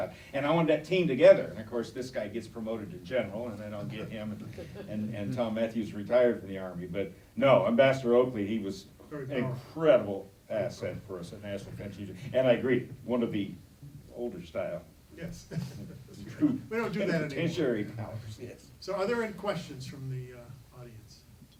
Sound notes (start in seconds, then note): 3.8 laughing; 15.3 chuckling